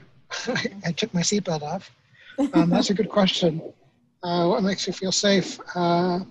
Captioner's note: laughs